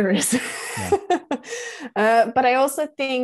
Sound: laughter

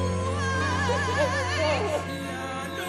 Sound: crying

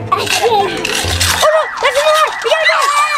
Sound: alarm blares

